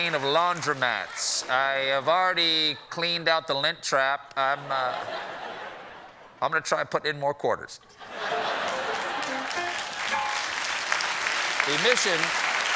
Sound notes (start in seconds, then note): 4.1 piano riff; 4.5 laughter; 8.4 applause